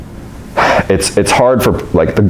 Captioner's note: sighs